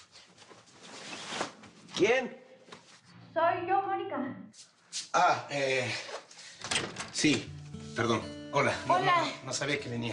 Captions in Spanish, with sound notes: ¿QUIEN? - SOY YO, MONICA. - !AH! EH... [Ruido al abrir] SI... PERDON. HOLA. NO... - !HOLA!